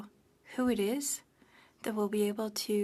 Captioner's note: speaking french